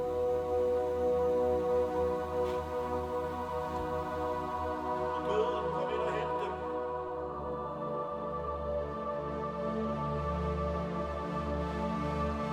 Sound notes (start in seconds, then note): 5.0 speaking foreign language; 7.6 soft music